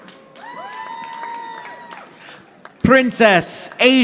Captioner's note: audience applauding